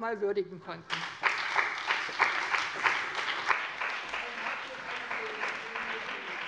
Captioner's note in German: Beifall bei dem BÜNDNIS 90/DIE GRÜNEN und der CDU